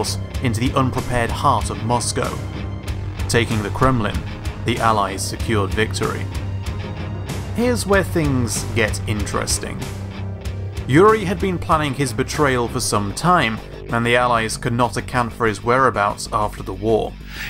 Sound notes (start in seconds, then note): none